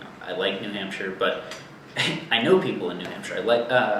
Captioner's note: chuckles